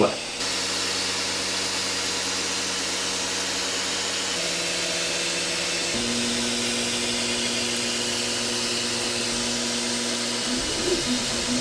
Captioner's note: loud sawing noise